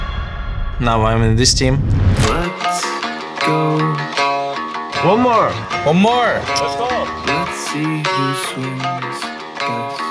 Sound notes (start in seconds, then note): 5.0 buZz